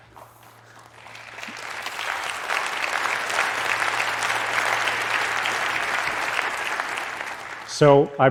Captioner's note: applause